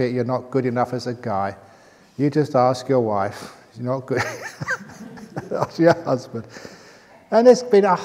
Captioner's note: chuckle